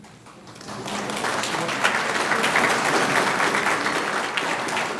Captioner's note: audience clapping